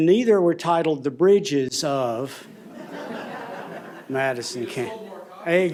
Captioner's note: laughter